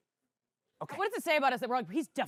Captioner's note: whispered